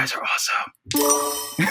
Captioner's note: chime; laughs